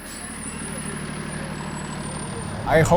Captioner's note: truck engine idling